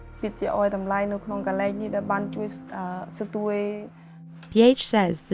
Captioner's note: speaking foreign language